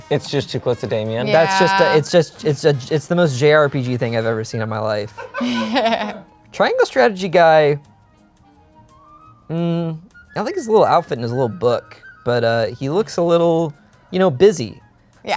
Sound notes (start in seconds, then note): 5.3 chuckles